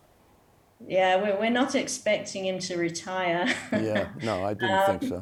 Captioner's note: chuckling